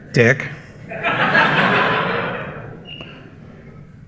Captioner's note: laughter